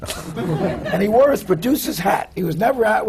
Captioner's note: laughter